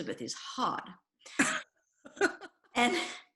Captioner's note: laughs